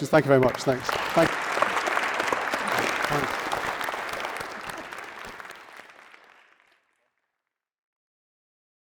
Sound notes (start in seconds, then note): 3.5 audience applauding